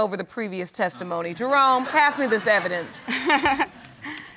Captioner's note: laughter